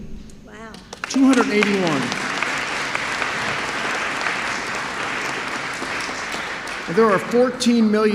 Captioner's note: applause